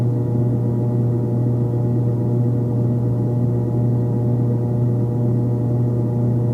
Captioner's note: none